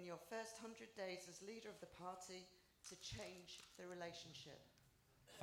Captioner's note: applause